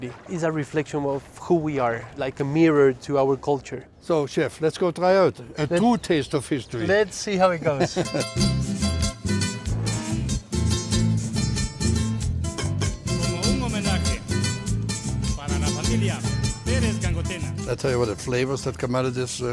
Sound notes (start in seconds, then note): 7.5 laughs; 8.5 lively Latin music; 12.4 metal clangs; 13.2 man singing in spanish